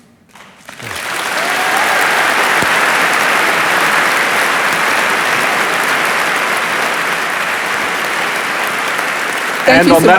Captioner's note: applause